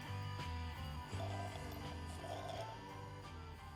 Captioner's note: slurps